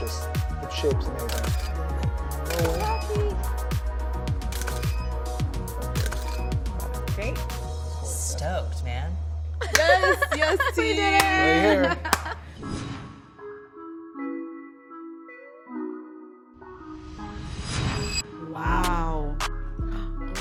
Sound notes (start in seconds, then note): 4.2 camera clicking; 9.7 laughs; 12.7 upbeat music